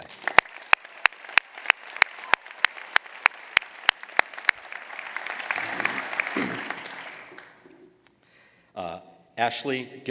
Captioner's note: applause